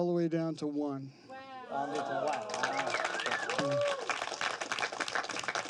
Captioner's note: crowd cheers